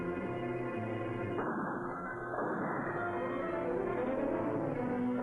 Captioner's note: gunfire blasting